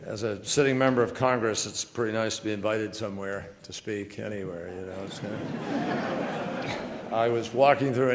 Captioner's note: laughter